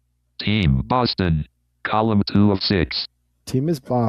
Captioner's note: automated Voice